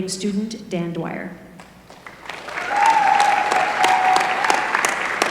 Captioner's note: applause